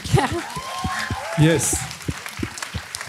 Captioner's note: audience clapping